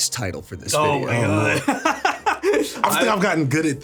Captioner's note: laughs